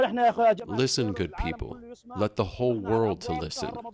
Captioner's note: through translator